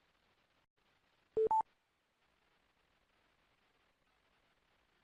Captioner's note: beeping